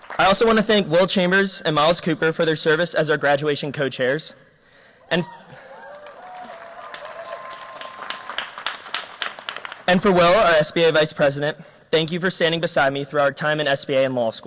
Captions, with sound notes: I also want to thank Will Chambers and Myles Cooper for their service as our graduation co-chairs. [CHEERS, APPLAUSE] And for, Will, our SBA vice president, thank you for standing beside me through our time at SVA and law